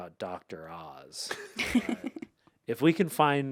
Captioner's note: laughs